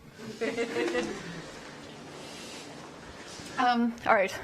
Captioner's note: audience laughs and murmurs